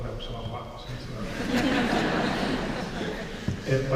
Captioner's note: laughter